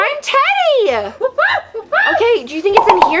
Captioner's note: exciting gorilla sounds